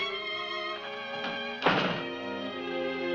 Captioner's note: door slams